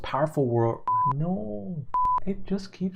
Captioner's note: signal beeps